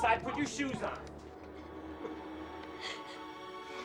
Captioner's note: both crying